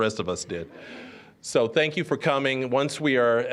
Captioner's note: audience chuckling